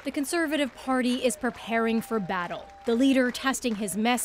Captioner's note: applause